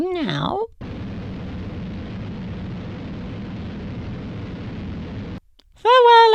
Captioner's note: rumbling